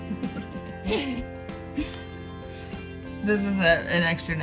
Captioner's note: laughing